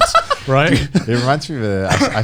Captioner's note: Joey laughing